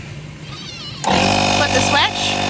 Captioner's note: compressor hums